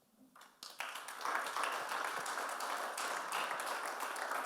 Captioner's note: audience applauds